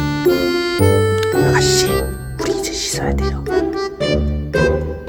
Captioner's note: whispering